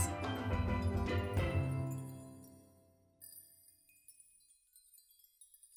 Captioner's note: fairy sparkle sounds play